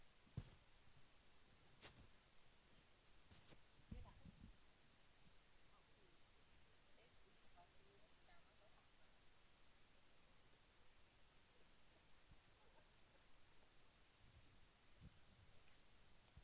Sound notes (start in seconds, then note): 0.4 thump; 2.2 soft conversation